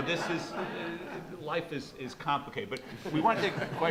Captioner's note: audience laughs